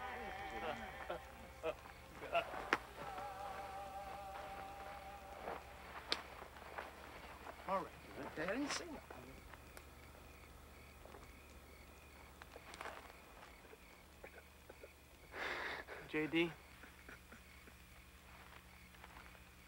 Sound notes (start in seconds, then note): 2.0 crying